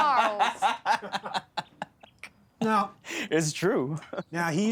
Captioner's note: laughter